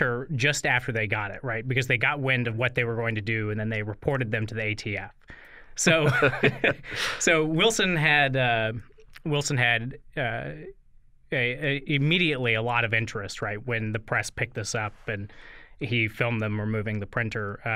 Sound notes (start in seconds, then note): 5.9 laughter